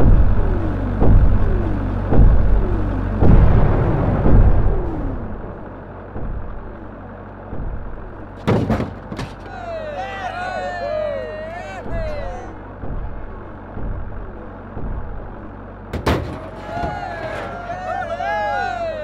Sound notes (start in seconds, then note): 8.3 crashing; 9.2 crowd cheering; 15.9 crashing; 16.0 crowd cheering